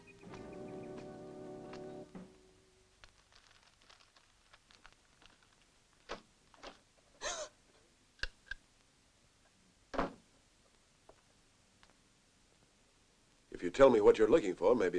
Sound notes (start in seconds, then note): 6.5 gasps; 8.0 switch clicks